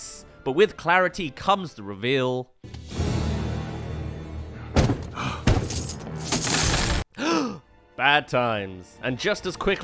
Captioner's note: bank reveal* *Gasp* *Money lands; gasp